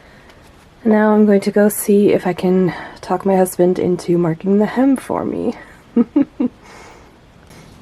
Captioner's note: chuckles